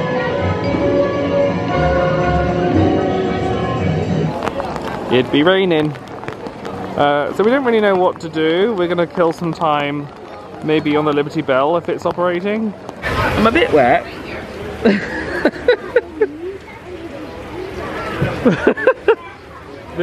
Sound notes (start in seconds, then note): 14.8 laughs; 18.4 laughs